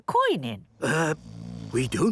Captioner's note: people snoring